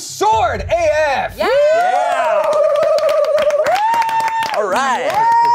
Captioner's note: everyone cheers